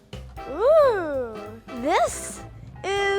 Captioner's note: ooing